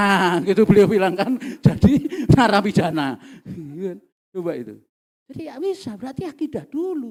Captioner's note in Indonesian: tertawa